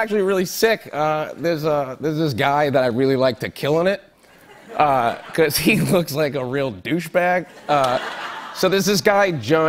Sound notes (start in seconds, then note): 4.2 laughter; 7.4 laughter